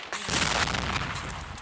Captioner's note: explosion